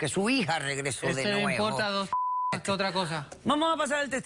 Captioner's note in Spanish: Bip